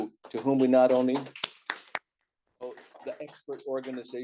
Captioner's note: applause